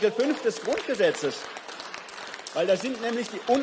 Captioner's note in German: Beifall